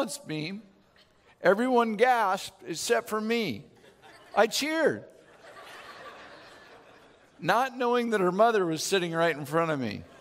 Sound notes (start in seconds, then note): 5.2 laughing